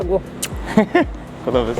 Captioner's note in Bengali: হাসি